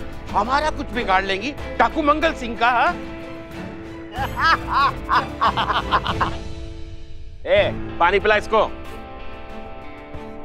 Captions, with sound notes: want to catch me, bandit Mangal Singh? [laughs] Give him water.